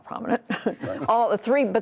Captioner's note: laughter